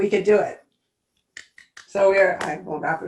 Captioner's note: claps hands